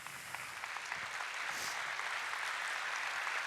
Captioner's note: applause